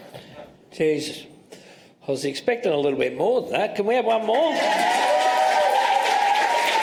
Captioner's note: applause